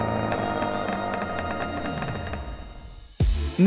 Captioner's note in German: Knarzen